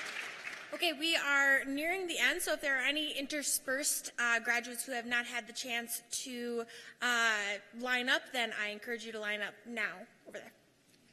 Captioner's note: cheers and applause